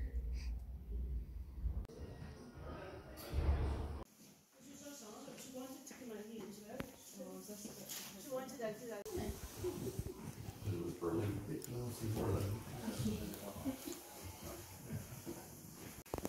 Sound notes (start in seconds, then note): none